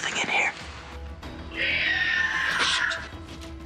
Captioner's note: screeching